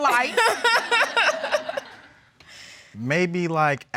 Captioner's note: laughing